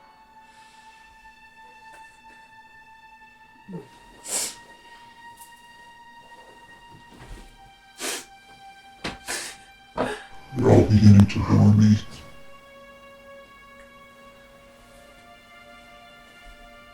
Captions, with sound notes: [dark orchestral music] [Kathryn sobs] You're all beginning to bore me.